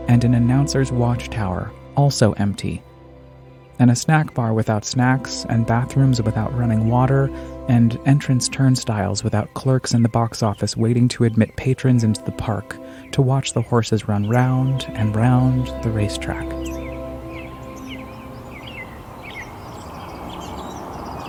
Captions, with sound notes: and an announcer's watchtower, also empty and a snack bar without snacks and bathrooms without running water and entrance turnstiles without clerks in the box office waiting to admit patrons into the park to watch the horses run round and round the racetrack. (birds chirping)